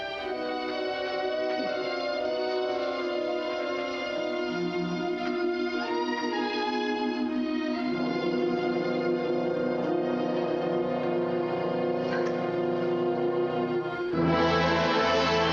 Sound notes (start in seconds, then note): 11.9 sobbing